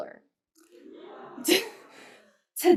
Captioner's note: laughter